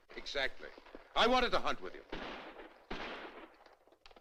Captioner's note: gunshots In Distance